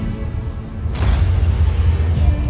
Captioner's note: music fades; whoosh of light; mystical music playing